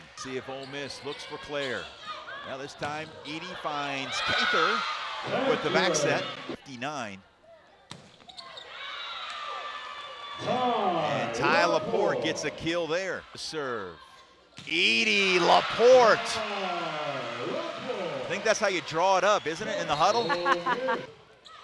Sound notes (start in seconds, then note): 8.7 players shouting; 14.9 audience cheers; 20.2 laughs